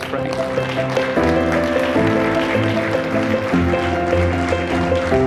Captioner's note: audience applauding and piano music